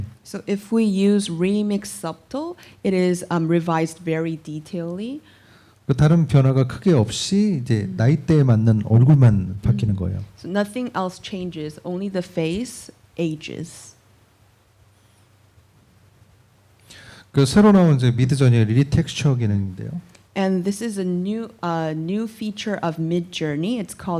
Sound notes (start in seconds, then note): 17.2 speaking korean